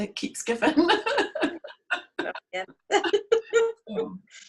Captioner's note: laughs